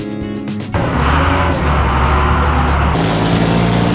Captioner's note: dump Truck Engine Sound; water Truck Engine Sound